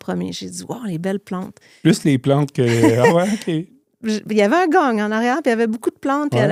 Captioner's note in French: rires